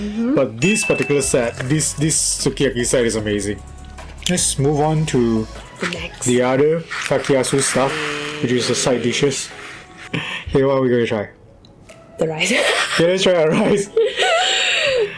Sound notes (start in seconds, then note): 12.5 laughs